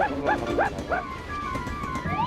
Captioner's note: barking